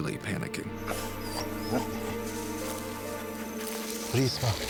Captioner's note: dog panting